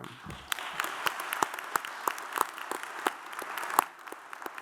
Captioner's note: audience applauds